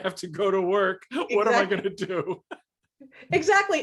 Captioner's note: laughs